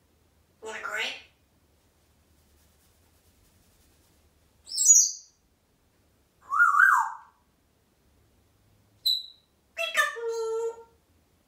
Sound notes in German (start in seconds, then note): 4.6 tweet; 6.5 whistling